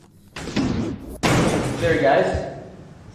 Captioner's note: banging